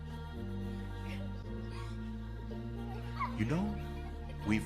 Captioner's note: laughter